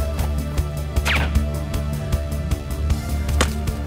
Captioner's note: dart thuds; gun fires; dart clacks; gun fires